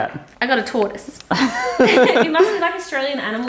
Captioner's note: laughter